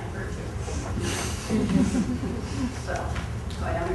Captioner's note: laughter